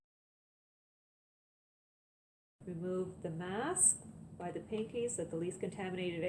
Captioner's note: none